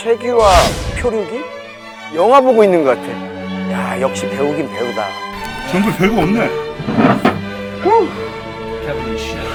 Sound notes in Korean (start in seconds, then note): 7.7 한숨